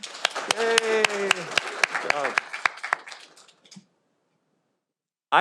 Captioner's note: audience applauding